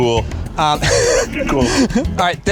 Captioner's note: laughing